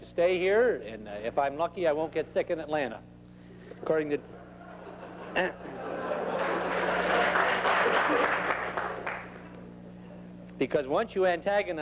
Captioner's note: laughter and scattered applause